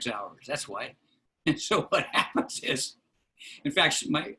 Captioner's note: laughter